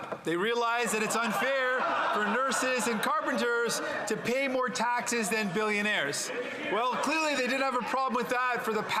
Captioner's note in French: voix de l'interprète